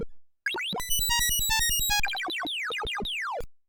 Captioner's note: computer bleeps and bloops